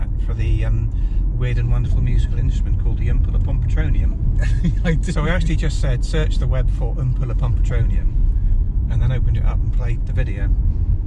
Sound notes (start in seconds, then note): 4.4 laughing